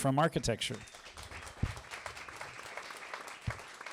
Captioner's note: applause